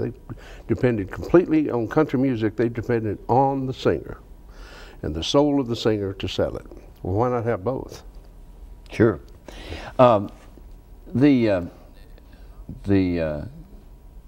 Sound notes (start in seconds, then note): none